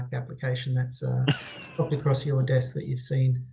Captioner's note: chuckling